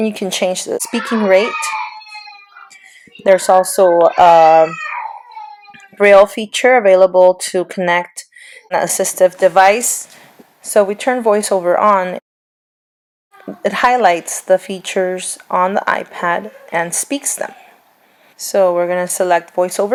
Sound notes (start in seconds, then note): 0.6 children vocalizing, debating; 4.0 child bellows; 13.3 children slightly audible; 17.4 children slightly audible